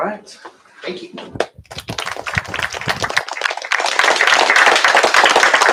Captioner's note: applause